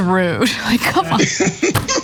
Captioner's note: laugh